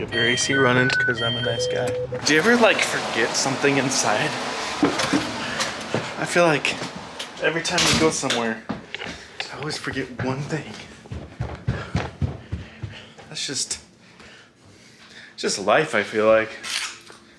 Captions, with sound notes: I'm gonna get your AC running, 'cause I'm a nice guy. Do you ever forget something inside? I feel like every time we go somewhere, I always forget one thing. (stomps) That's just life, I feel like.